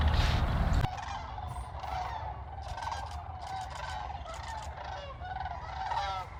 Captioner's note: cranes whooping; camera shuttering